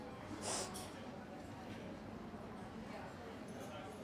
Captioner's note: sniffs